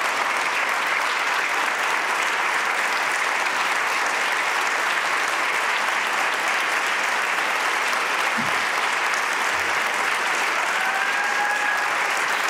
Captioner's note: applause